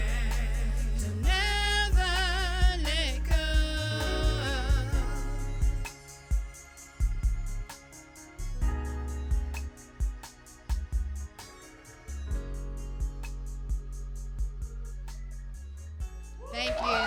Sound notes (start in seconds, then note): 6.1 cheers and applause